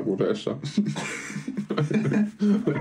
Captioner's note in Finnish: naurahduksia